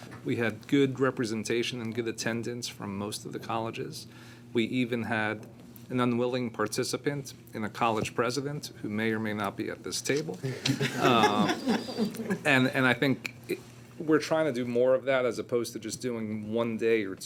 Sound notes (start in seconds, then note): 10.4 board members laughing